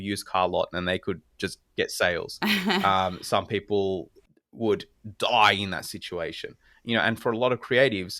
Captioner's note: laugh